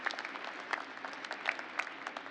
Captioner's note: applause